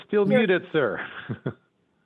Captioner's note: laughing